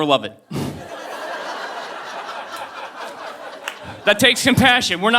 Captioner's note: audience laughing